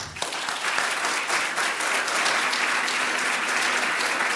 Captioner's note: audience applauds